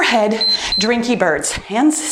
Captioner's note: timer beeps